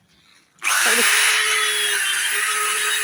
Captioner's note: drill motor cuts off sentence